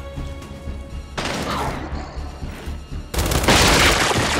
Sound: gunshots

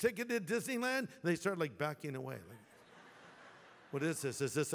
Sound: laughter

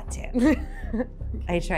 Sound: laughs

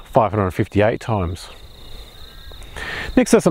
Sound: birds chirping

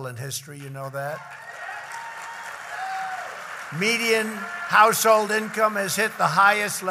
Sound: applause

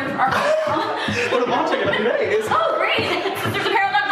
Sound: laughing

